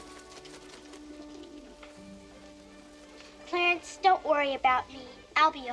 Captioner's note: wings flapping